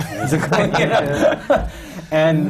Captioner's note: laughter